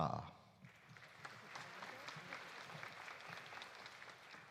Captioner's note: audience applauding